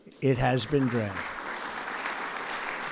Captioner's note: applause